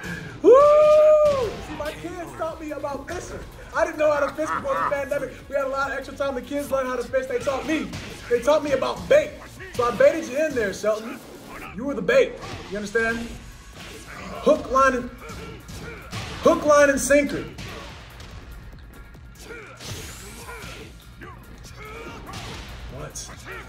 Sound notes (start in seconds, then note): 3.7 laugh